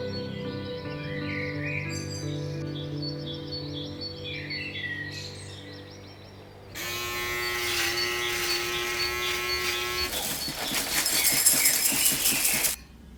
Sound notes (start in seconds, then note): 6.7 shaver buzzing; 10.0 cereal rattling